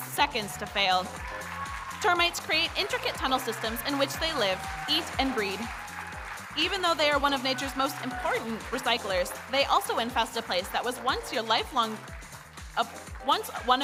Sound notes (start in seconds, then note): 2.1 audience cheering